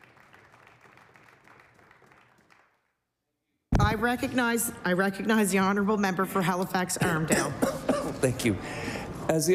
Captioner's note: applause